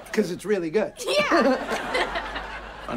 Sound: laughing

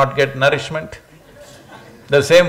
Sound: few laugh

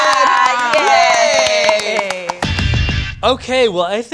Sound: cast claps

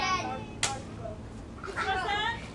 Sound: smack!

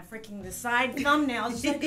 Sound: laughs

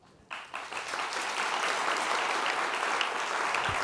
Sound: applause

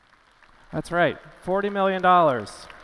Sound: applause

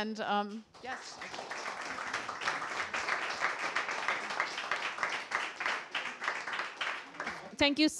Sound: applause

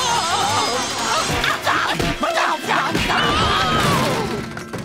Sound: screaming

